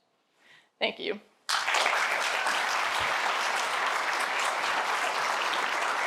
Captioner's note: applause